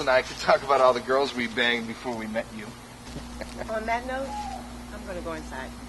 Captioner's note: laughs